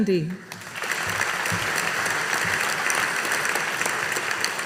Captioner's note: audience applauding